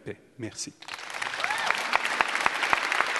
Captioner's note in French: Applaudissements